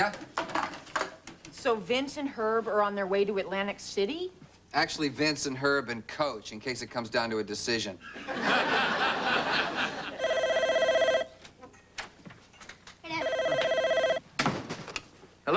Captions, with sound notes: YEAH. VINCE AND HERB ARE ON THEIR WAY TO ATLANTIC CITY? ACTUALLY, VINCE AND HERB AND COACH, IN CASE IT COMES DOWN TO A DECISION. [TELEPHONE RINGS] [RING] HEY, DAD.